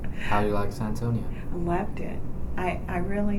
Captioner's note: laughs